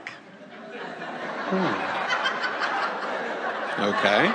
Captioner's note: audience laughs